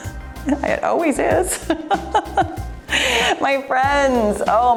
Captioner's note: laughs